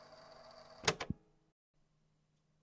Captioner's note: click